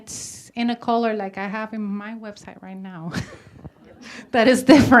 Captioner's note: laughs